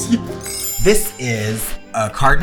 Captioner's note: laughs